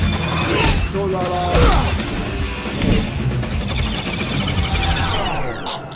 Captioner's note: speaking foreign language